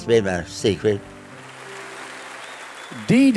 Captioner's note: crowd cheers and applauds